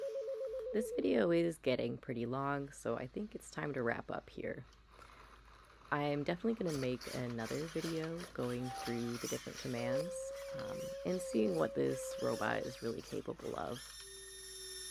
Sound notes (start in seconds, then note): 0.0 Tsukiko makes a series of bizarre noises; 9.5 Luna making sad sounds in the background